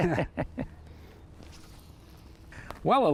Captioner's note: both laugh